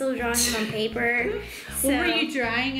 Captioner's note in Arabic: يضحك